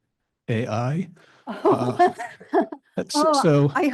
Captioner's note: laughing